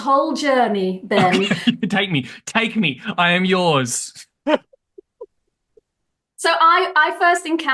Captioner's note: laughs